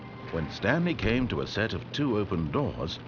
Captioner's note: none